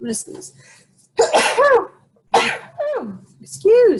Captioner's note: sneezing